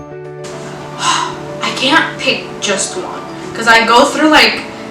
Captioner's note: sigh